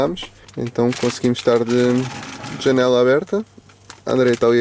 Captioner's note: door open